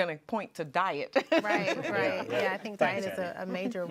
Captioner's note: laughing